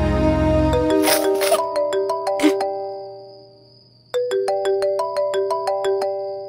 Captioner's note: Phone ringing